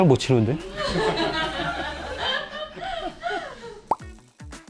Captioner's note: laughter